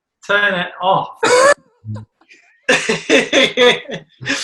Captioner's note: laughing